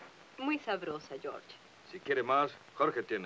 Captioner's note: Rose speaks in foreign language